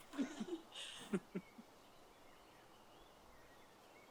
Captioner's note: giggling